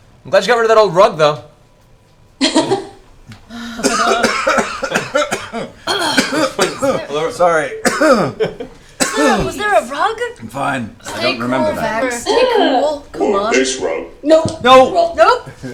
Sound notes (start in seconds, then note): 3.4 laughs; 3.4 scattered coughing; 8.3 coughs